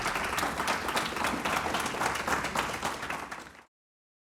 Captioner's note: audience Applauding